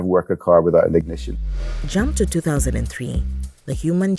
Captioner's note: a car engine fires up in excitement